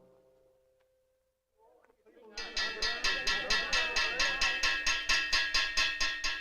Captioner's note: guests Chattering, Stop; tapping On Metal Pitcher